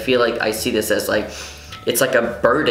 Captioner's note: inhale